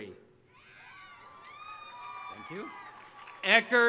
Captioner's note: audience applauding